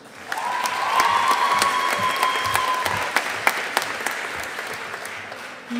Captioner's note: audience applauding